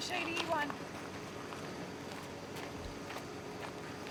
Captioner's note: feet tapping